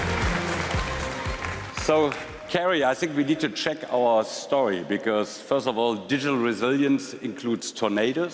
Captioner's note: applause